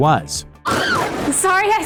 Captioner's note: scream